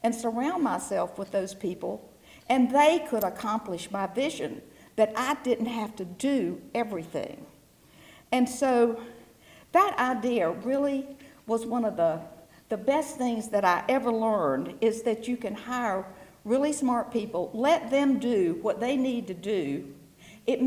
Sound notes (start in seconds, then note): none